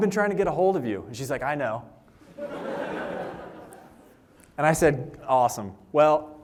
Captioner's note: laughter